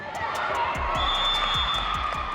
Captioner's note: whistle blows